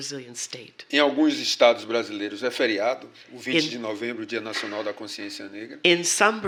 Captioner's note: speaking portuguese